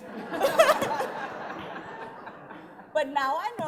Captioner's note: laughing